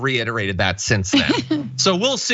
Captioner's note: laugh